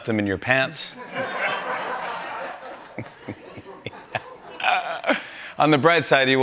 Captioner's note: laughter